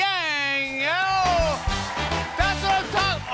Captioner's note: cheers and applause